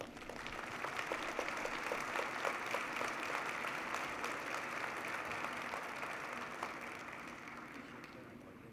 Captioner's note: applause